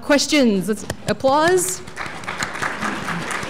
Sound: applause

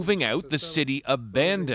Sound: speaking alternate language

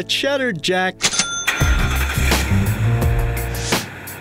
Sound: car starting

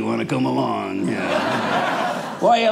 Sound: audience laughing

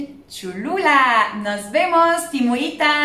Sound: in Spanish

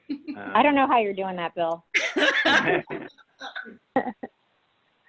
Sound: laughter

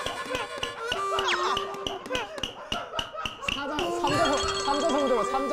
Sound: burst out laughing

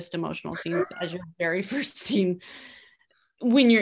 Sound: both laughing

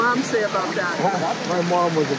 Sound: scoffs

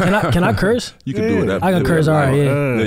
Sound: laughs

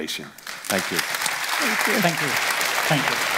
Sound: audience clapping

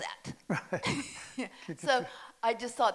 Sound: both laughing

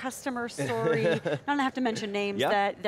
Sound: laughs

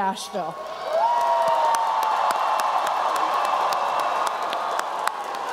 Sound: applause and cheering

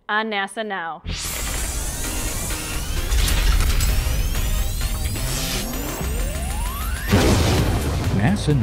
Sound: sound Effects

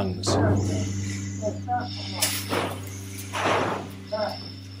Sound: objects thudding

